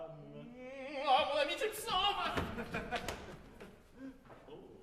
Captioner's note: THEY laugh